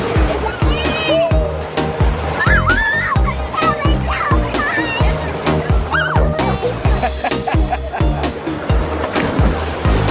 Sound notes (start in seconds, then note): 0.1 upbeat music; 2.4 kids laughing